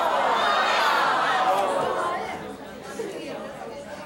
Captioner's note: crowd jeering